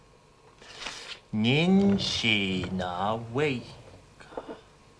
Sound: speaking Chinese

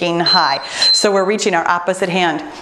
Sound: timer beeps

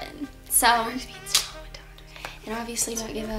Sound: whispers

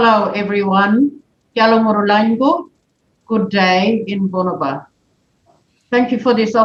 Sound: bunuba language spoken

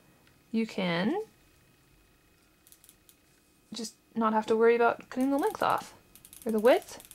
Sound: chalk rattles

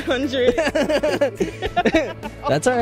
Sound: laughter

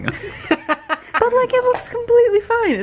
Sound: laughs

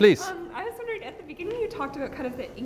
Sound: voiceover

